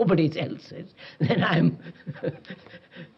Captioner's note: laughs